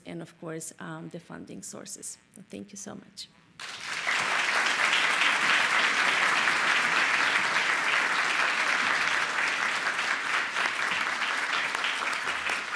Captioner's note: applause